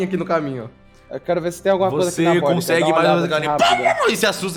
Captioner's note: clucking